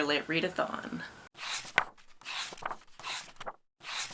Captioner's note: pages turning